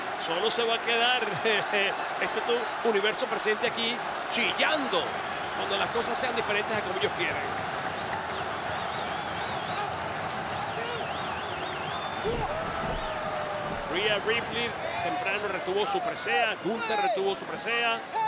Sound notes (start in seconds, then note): 1.9 laugh; 8.1 applause